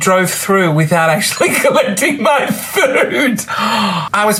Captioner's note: laughs